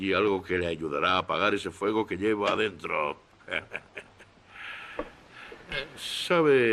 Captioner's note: chuckles